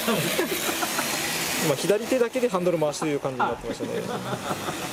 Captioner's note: laughs